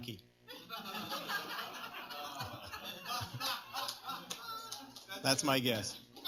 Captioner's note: laughter